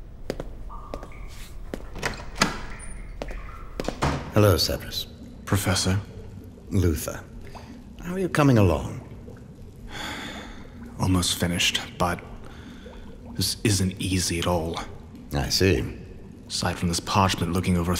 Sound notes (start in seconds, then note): 0.8 door opening; 1.7 door closes